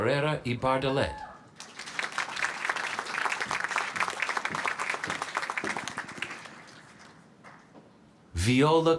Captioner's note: applause